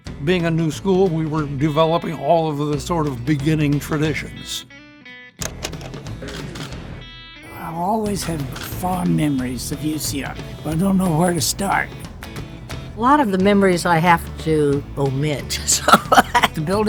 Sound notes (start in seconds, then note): 0.0 upbeat '50s music; 5.2 film projector clicking; 6.2 camera shuttering; 15.5 laughs